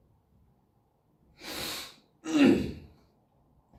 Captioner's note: sniff; clears throat